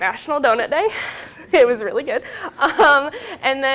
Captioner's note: both chuckling; laughing